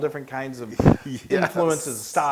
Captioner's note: laugh